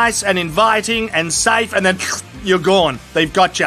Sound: schloop

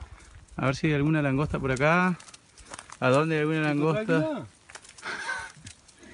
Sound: speaks in a foreign language; laughing

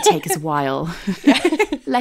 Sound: laughing

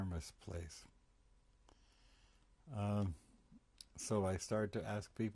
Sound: pauses for 3 seconds

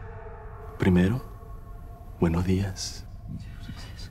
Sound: venezuelan accent

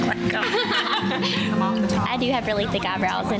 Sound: laughs

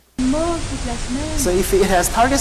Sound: french woman speaking

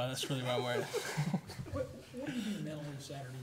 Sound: laughing

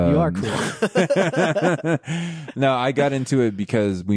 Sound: both laughing

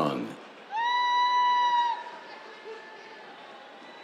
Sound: cheers

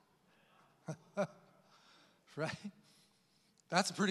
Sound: laughs

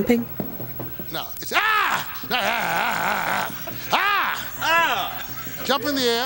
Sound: yelling

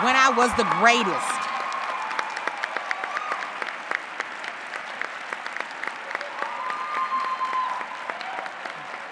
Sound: applause

